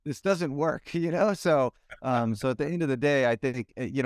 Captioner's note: laughs